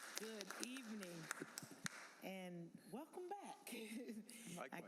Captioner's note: applause